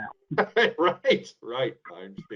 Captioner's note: laughs